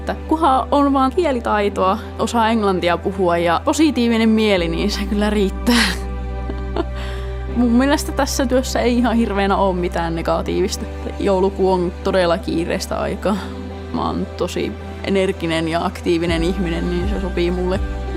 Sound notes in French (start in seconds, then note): 6.4 rires